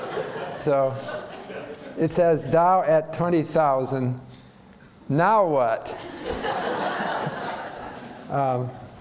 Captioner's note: laughter